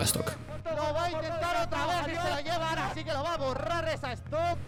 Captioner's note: more spanish commentary